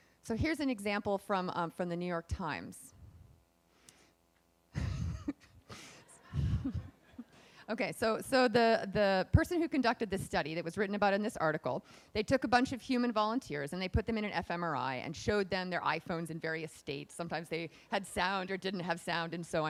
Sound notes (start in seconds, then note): 6.2 laughs